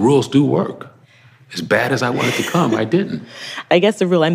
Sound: laughs

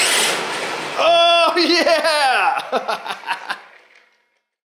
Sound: laughing

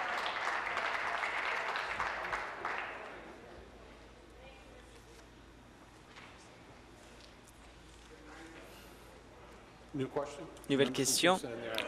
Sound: applause

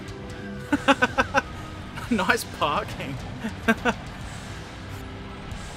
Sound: laughter

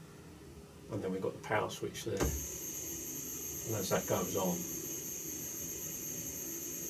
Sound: stepper motor noise

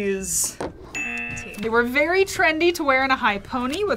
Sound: buzzer

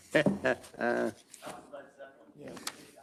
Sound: laughing

